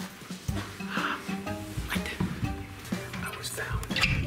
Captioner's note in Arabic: الشهقات